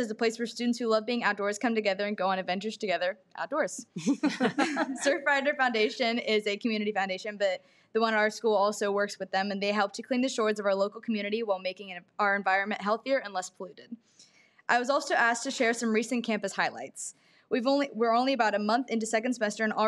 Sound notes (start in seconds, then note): 3.9 person laughing